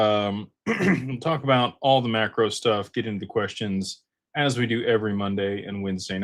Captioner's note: clears throat